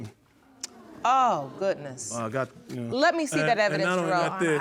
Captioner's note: audience sighing